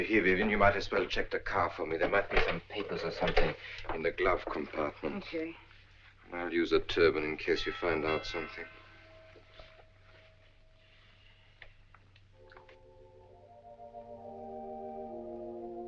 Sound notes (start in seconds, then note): 7.7 doorbell rings; 12.2 gentle music